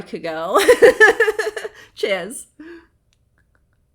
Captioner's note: laughing